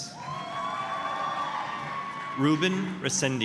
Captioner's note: applause, cheering